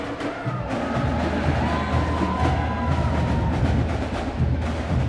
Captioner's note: crowd cheering